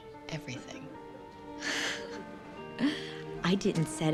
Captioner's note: chuckles